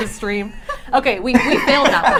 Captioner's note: laughing